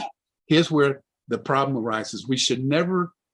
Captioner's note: coughs